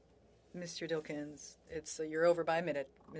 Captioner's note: speaking French